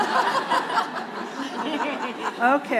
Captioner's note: laughter